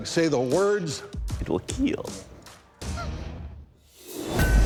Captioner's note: chuckles; intense rock music